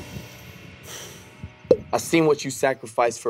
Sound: exhales

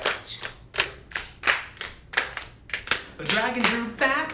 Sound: clapping continues

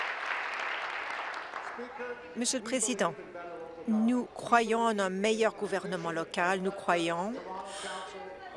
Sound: applause

